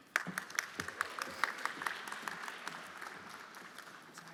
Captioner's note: everyone applauding